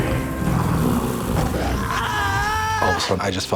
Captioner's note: screaming